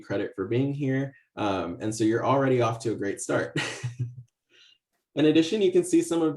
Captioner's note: laughs